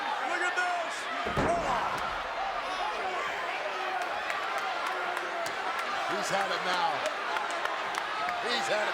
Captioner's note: applause